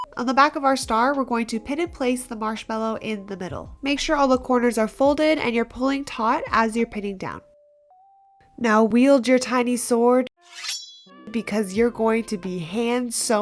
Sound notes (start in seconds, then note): 10.5 shing